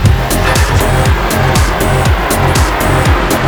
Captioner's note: blow off valve sounds